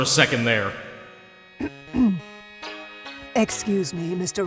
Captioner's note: clearing throat